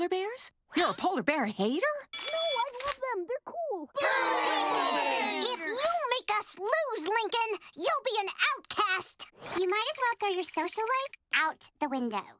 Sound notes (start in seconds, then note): 4.0 jeering